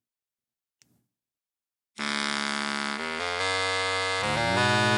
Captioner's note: buzzing